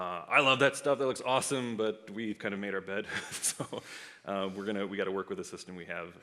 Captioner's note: laughs